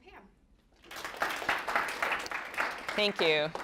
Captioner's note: applause